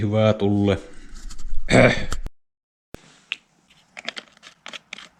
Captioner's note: cough